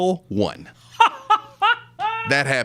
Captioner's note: laughing